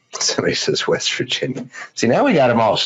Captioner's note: laughs